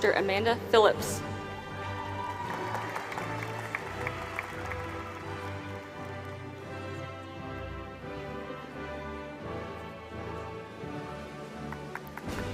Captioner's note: applause